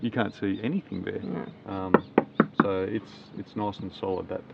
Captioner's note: taps